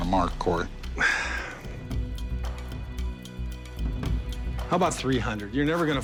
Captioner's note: sighs